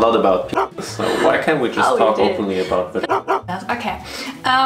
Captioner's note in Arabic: لحاء الكلب; الكلب ينبح